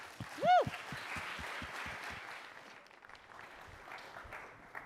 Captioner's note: applause